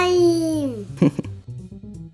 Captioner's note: laugh